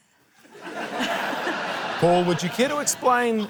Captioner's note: laughter